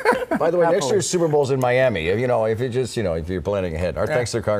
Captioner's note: laughter